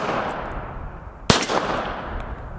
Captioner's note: pistol fires